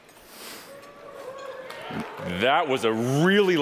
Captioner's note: audience cheering